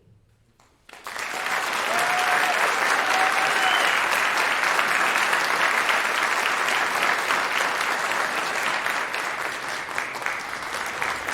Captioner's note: applause